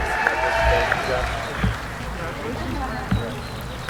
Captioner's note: applauding